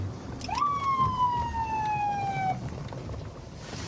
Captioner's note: sirens blaring